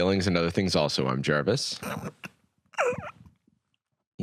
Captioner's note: stretching noises